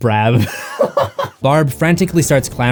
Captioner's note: laughter